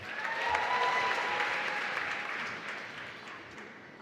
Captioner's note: applause